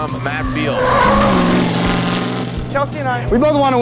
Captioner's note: tires screeching